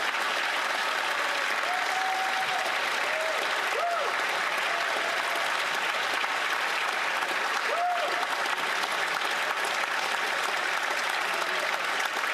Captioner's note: cheering and Applause